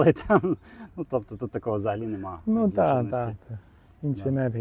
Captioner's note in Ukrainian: сміх